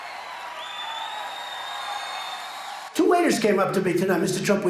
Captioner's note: crowd cheering